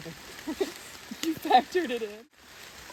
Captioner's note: laughs